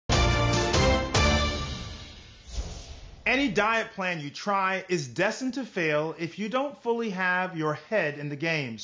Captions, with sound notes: (dramatic orchestral music) (air whooshing) - Any diet plan you try is destined to fail, if you don't fully have your head in the game.